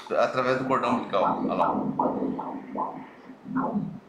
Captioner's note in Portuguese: batidas do coração